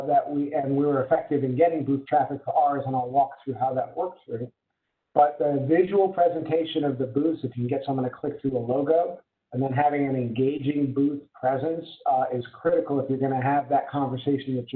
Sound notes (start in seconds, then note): 4.7 murmurs